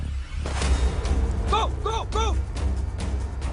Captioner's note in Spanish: Disparos